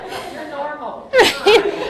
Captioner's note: laughs